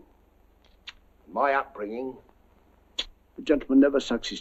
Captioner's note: sucking through teeth